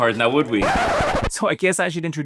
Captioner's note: record scratch